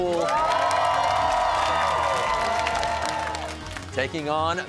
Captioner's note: cheers and applause